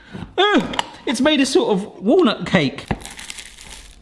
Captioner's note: exclaims